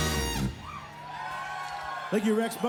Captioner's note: cheering